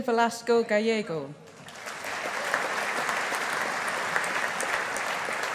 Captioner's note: audience applauding